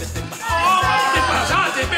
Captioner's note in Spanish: Gritos